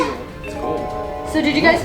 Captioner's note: chimes ring